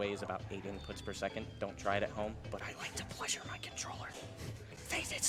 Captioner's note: whispering